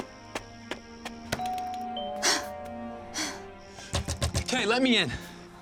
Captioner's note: doorbell rings; gasps